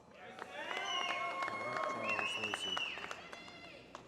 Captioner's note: applause